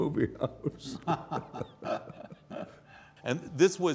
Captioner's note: both laughing